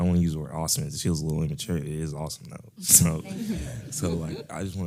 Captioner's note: laugh